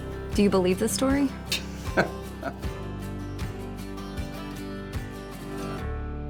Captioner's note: bright music; laughs